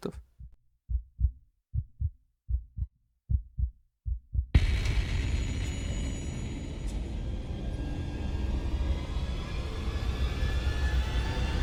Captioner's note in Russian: Звук сердцебиения сменяется тревожной нотой с нарастающей громкостью